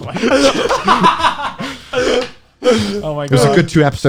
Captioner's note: guys laughing